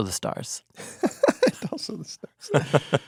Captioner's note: laughing